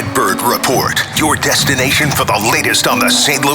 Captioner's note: clapping